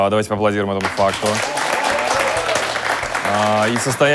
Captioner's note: applause